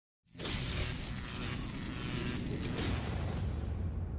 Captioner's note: electric buzzing